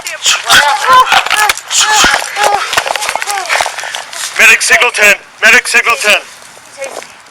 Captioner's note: mingled yelling, groaning